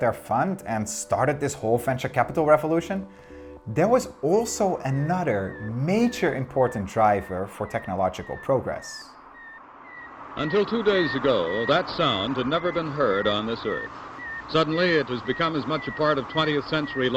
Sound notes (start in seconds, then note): 9.8 satellite beeping